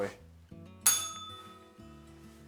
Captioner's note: bell rings